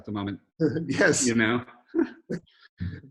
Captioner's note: laughs